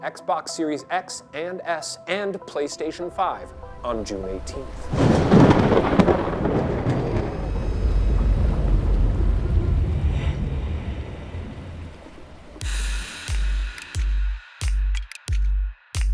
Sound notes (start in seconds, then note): 3.9 thunder cracks; 4.9 water rushes; 12.6 upbeat hip-hop music